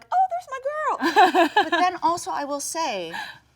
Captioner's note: Jung laughs